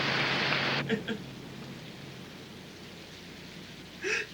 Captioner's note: Casey crying